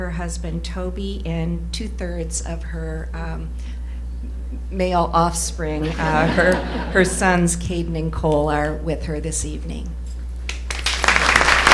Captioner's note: applause